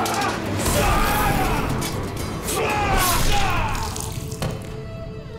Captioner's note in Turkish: Kılıç sesleri; Dövüş sesleri